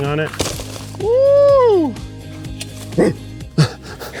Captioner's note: Keith and Ryan laugh; hoots